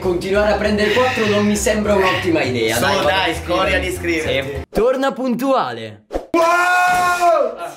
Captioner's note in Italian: urla